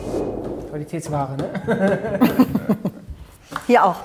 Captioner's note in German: Gelächter